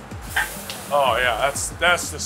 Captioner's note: meat sizzles